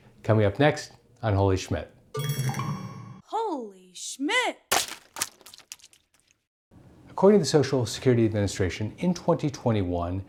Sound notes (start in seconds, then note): 2.1 chimes ringing; 4.7 objects squishing